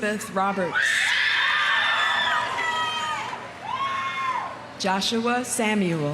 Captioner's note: audience cheering; audience applauding